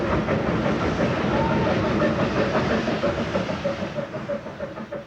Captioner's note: train passing